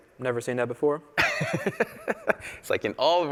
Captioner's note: laughter